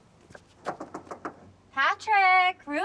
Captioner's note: knocks